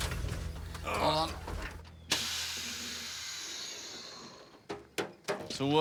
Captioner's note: exhales sharply